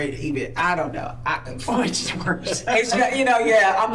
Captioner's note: laughing